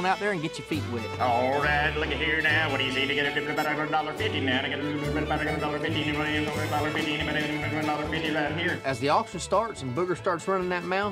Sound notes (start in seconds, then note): 2.7 starts auctioneering